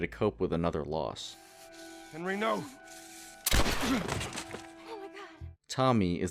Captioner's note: gunshot